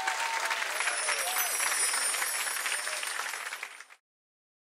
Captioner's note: audience cheering and clapping; bells chiming